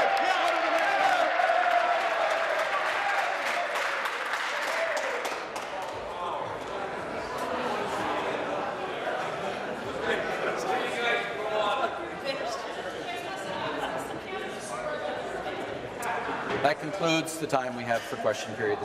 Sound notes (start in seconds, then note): 4.6 cheering; 6.8 applause